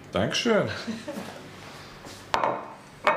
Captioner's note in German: Sie lacht